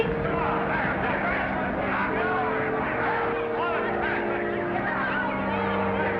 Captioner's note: reporters chattering; somber music